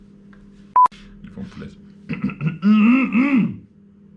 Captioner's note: clearing throat